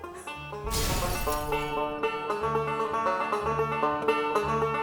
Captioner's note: crash; upbeat banjo music